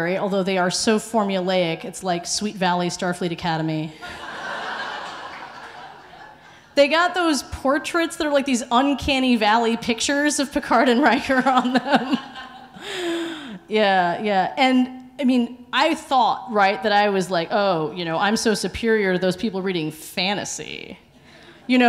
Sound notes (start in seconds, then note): 4.0 audience laughing; 11.6 laughs